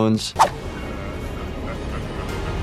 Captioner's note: screen whooshing; monster laughing maniacally